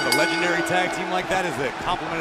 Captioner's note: bell ringing